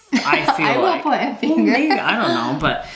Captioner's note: chuckles